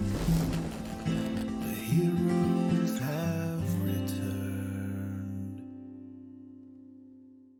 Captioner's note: lightning crackles